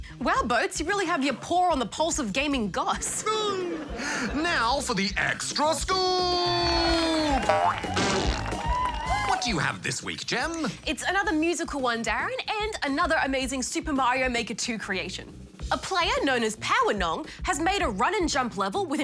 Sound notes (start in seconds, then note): 3.0 laughter; 6.3 cheering, applause